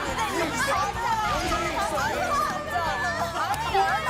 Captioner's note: intense argument